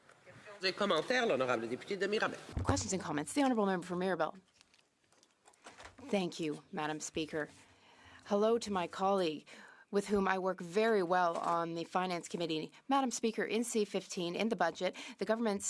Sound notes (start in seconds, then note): 4.2 speaking French